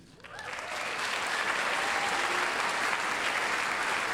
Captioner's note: applause, cheering